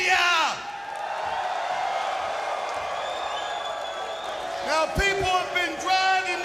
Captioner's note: crowd cheering